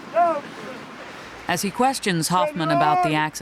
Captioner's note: voiceover